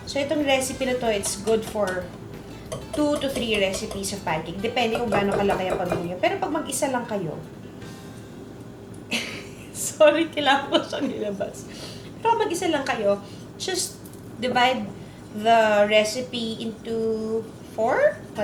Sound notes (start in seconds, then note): 9.1 laughs